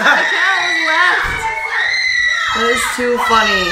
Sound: screaming

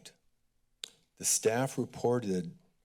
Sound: click tongue

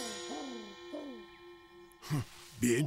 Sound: doves Cooing

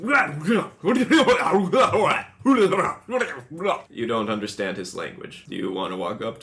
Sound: weird language

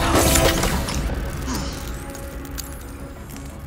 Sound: grunt

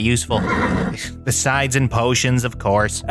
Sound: Porkchop grunts

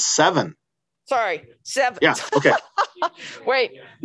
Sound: laughing

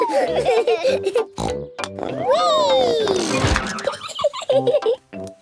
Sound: snort, laughing; snort

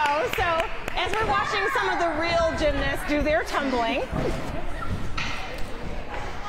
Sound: applause

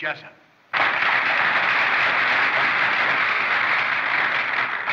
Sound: applause

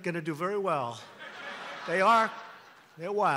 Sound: laughter

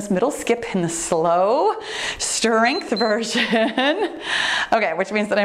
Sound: timer beeps

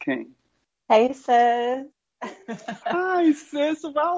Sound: chuckles

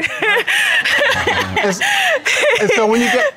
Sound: laughing

